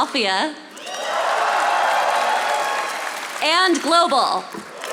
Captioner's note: audience applauding